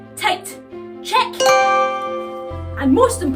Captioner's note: chime